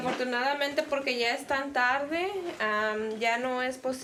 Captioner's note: Spanish